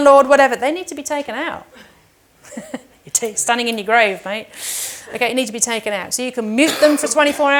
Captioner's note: laughing